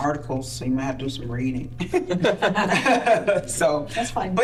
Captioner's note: laughing